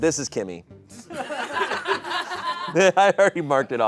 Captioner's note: audience laughing